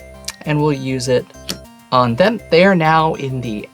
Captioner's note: card slaps